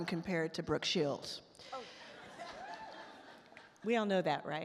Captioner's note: all laugh